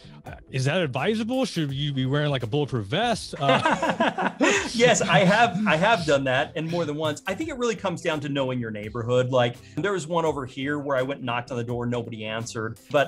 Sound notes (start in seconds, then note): 3.3 both laughing